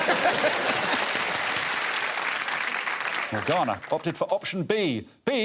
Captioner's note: applause and laughter